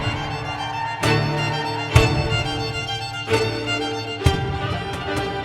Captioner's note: audience cheering